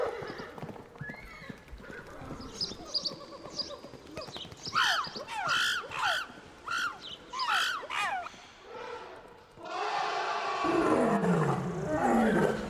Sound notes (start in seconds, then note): 0.2 horse neighing; 2.5 chattering monkeys; 9.6 elephant trumpets